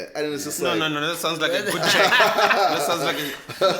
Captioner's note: everybody laughs